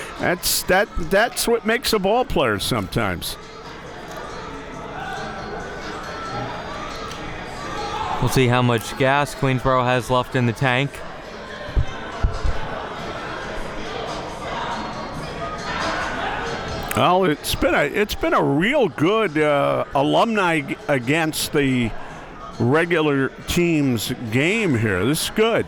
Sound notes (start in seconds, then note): 3.7 upbeat hiphop music; 12.4 spectators and players chattering